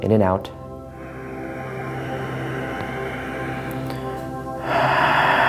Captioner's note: breathing heavily